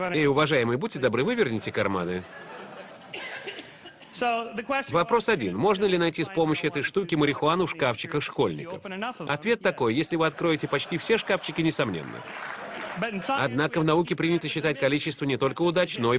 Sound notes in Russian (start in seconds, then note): 2.0 Смех в зале; 9.9 Смех в зале; 11.8 Аплодисменты